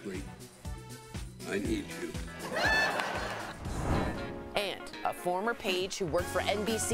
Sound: laughter

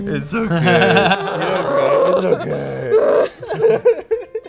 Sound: laughing

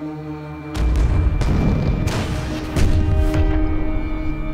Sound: ominous music crescendos; bombs banging

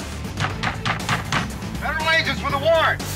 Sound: pounding on door

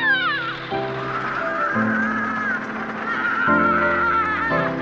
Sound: shrieks; shouting

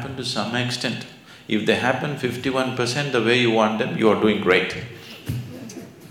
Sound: laughter

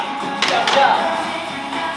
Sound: clap clap

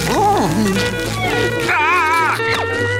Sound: screaming

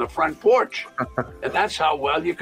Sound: laughs

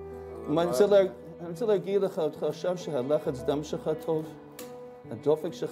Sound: medics speak foreign language

